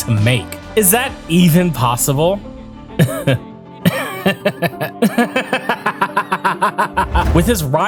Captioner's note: laugh maniacally